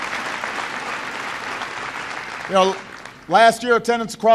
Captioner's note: applause